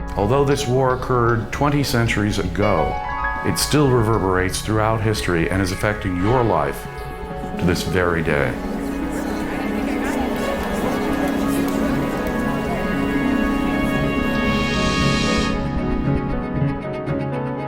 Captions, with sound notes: Although this war occurred 20 centuries ago, it still reverberates throughout history and is affecting your life to this very day. (soft music) (crowd chattering)